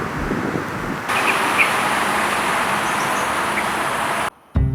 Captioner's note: the loud sound of traffic